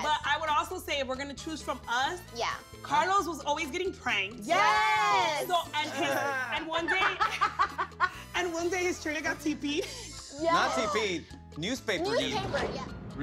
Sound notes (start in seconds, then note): 7.7 laughs